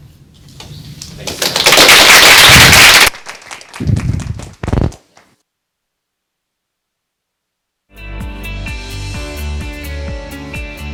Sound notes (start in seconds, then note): 1.2 applause; 8.6 upbeat music